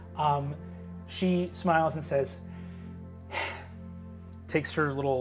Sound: sighs

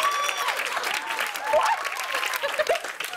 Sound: cheers and applause; laughs

